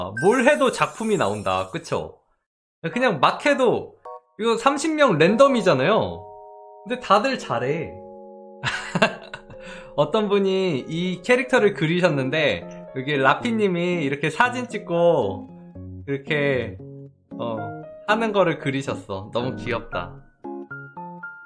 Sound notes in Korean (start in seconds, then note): 8.6 웃음